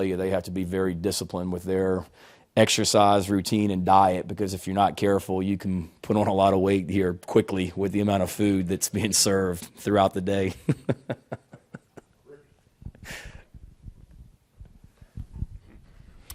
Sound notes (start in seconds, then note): 10.4 laughs